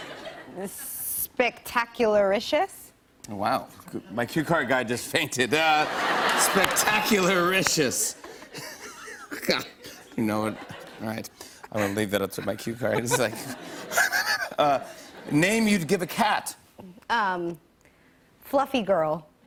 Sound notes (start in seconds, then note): 0.0 laughs; 7.9 laughs; 7.9 laughter; 14.2 gasping